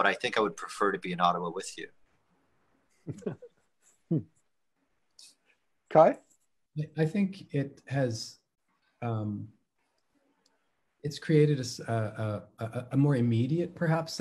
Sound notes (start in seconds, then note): 3.0 laughs